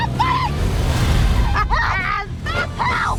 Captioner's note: laughs